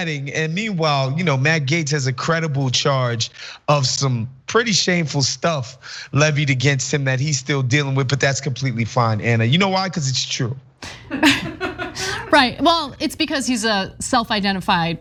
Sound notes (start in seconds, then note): 10.8 laugh